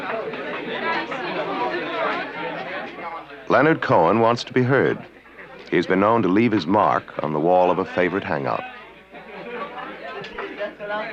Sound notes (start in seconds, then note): 2.7 chatter